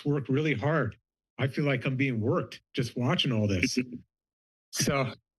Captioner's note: laughter